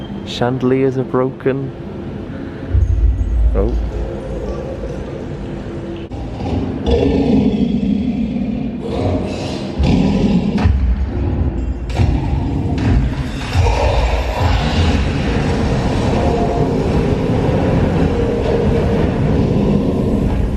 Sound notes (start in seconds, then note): 6.1 dragon growling; 10.9 dragon stomping; 14.7 dragon roaring